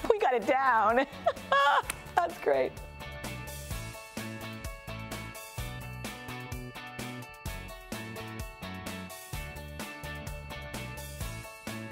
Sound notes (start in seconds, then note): 1.1 laughs; 2.2 upbeat music